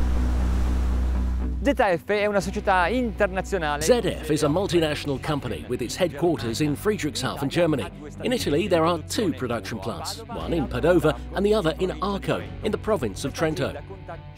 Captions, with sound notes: (speaking in foreign language) ZF is a multinational company, with its headquarters in Friedrichshafen in Germany. In Italy their are two production plants, one in Padova, and the other in Arco, in the province of Trento.